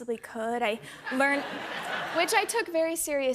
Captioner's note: laughter